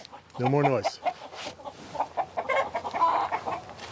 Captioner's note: more chicken squawking